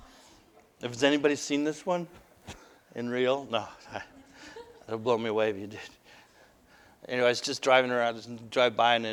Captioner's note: laughter